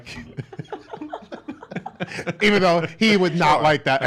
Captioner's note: laughs